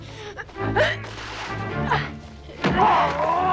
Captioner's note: Hundra grunts; Torente shouting